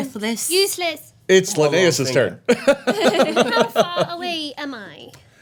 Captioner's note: laughing